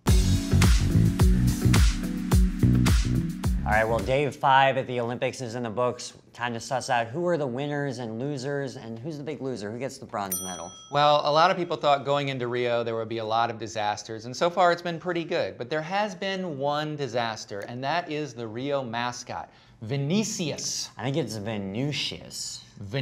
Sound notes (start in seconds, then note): 0.0 groovy dance beat; 10.3 bell dings